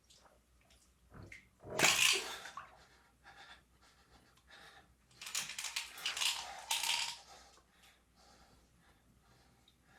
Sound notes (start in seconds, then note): 1.8 cap pops; 1.8 pills rattling